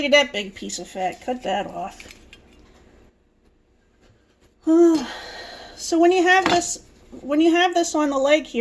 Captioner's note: sighs